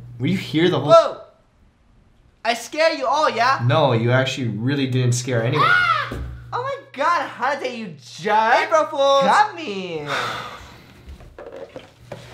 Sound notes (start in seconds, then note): 5.5 screaming